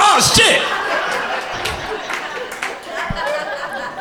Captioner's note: crowd laughter